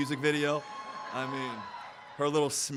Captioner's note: audience cheering